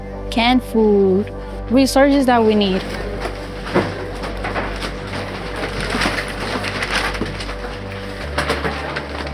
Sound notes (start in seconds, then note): 4.5 bag crinkling